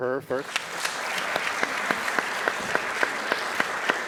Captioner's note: applause